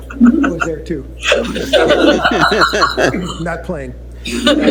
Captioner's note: laughter